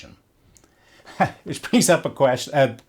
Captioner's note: laughs